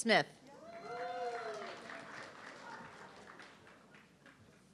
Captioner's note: audience clapping